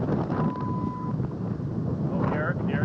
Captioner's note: 1:30 PM CDT beep